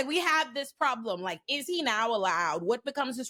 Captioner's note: none